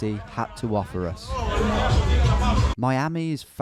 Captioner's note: people chatting; Latin pop music